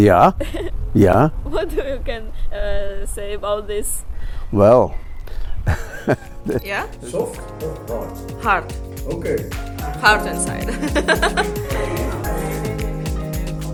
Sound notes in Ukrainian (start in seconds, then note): 10.6 laughter; 10.6 сміх